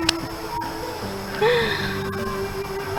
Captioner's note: gasps